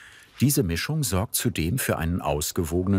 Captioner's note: none